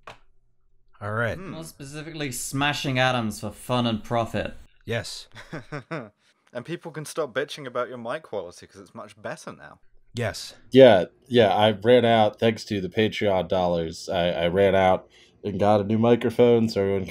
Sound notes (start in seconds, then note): 5.3 nervous laughter; 10.3 much better mic voice